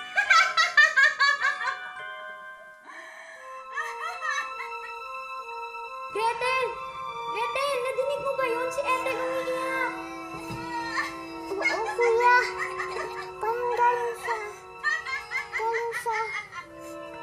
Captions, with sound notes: [witch laughing] Gretel! Gretel, did you hear that? Ethel's crying. [Ethel crying] Yes, Hansel. It's like it's coming from... -[witch laughing] -From...